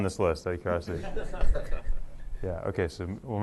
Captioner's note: laughter